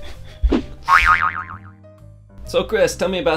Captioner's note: laughs; sproings